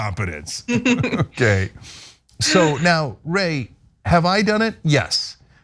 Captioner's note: laugh